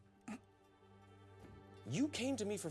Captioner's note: clears throat